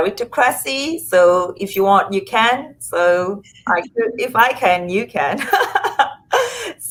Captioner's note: laughs